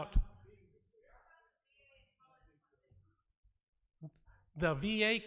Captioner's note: audience talking